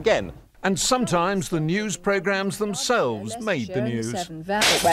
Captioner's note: bulb shatters